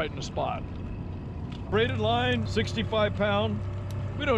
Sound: boat engine idling

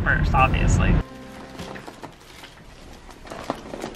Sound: cracking

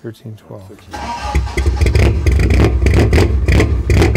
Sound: exhaust rumbling

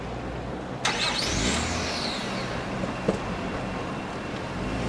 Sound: car engine starts

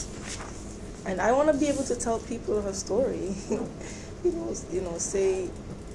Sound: laughs

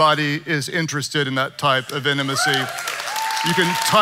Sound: congregation cheering

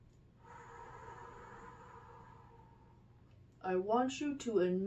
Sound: inhales; exhales

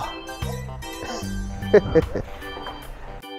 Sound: laughs

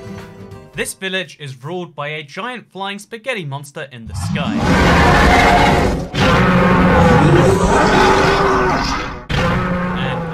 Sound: screams from the giant Flying Spaghetti Monster in the sky

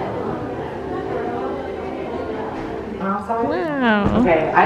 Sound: crowd murmuring

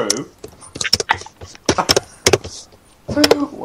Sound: exhale

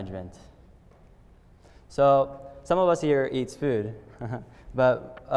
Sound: laughter

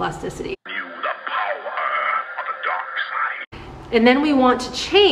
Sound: voiceover

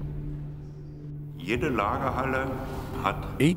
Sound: speaking German

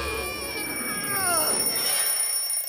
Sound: alarm rings

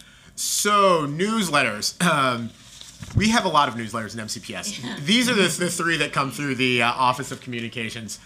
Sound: laughter

